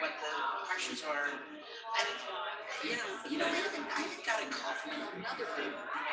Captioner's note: people chattering indistinctly